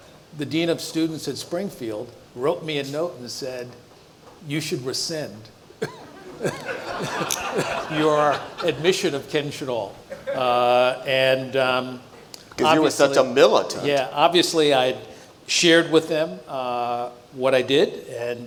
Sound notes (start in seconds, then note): 5.8 audience laughs